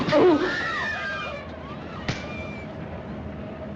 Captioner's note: groans; train approaching